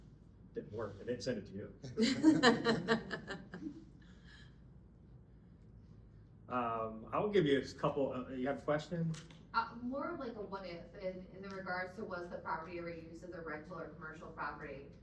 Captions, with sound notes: Didn't work, I didn't send it to you. (laughing) I will give you a couple, you have a question? More of like a what if in regards to was the property or use of the regular commercial property